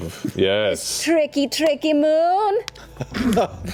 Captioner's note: unconvincingly